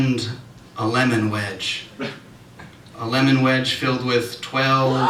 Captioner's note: audience Reaction